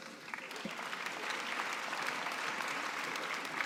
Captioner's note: applause